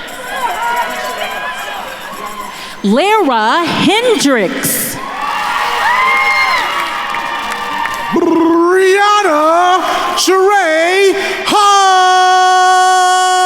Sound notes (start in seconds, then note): 0.2 attendees cheering; 5.2 attendees cheering and applauding